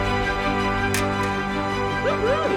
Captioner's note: motivational music; shovels clinking